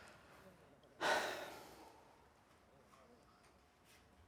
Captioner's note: Caleb sighing